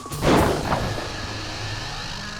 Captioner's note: gun fires